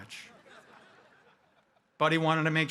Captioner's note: audience laughing